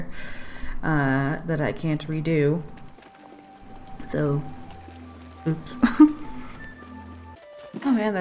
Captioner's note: laughs